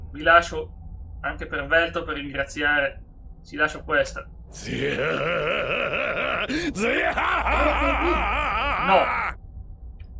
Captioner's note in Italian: gemito; urlo